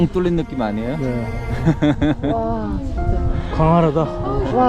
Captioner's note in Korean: 웃음